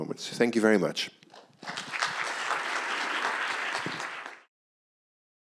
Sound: applause

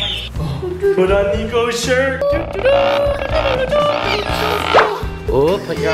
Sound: verbal trumpeting

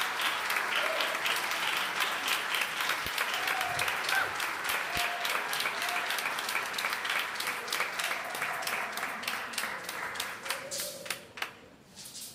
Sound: measuring tape recoils

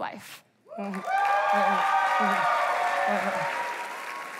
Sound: applause

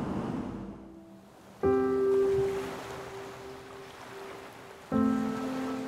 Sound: water rushing; soft piano music

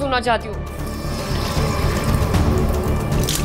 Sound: water gushes

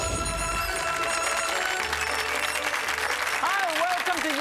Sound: audience applauding

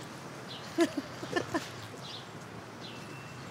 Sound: Urmi giggles

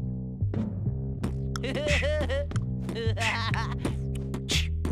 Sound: laughing

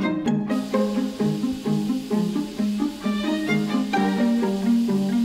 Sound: shower running

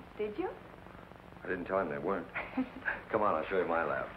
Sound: giggles

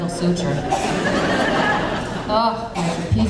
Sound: audience laughing

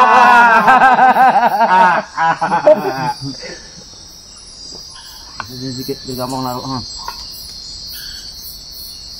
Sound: laughs

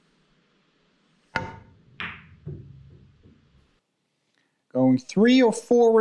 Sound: pool balls tapping

